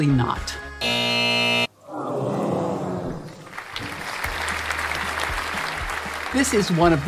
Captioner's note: applause